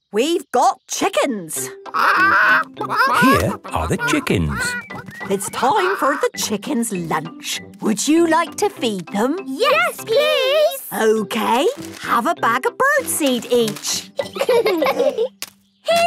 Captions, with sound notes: - We've got chickens! - (clucking) - Here are the chickens. - It's time for the chickens' lunch. Would you like to feed them? - Yes, please! - Okay... Have a bag of bird seed each! - (laughing)